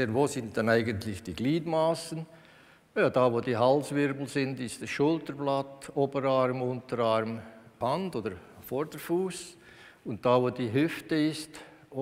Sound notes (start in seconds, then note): none